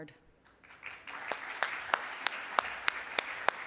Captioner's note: applause